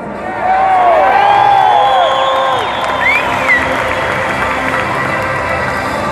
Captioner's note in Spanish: aplausos